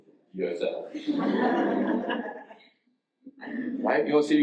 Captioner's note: audience laughs